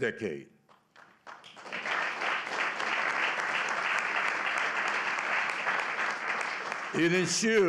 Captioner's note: applause